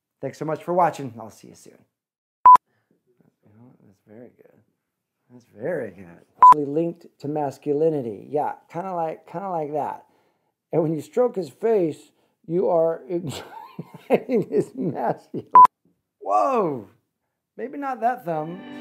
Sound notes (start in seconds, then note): 13.2 laughs